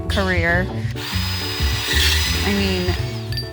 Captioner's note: machine whirring